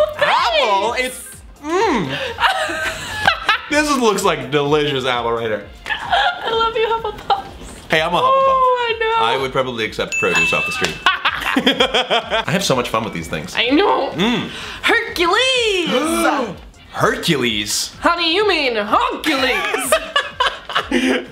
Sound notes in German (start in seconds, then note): 1.8 lacht; 11.0 lacht laut; 14.2 schnauft; 19.6 lacht hysterisch